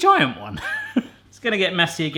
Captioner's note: laughing